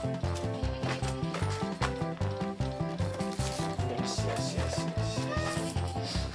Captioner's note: laughs